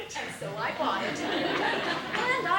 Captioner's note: laughter